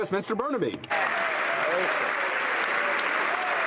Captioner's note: some Applause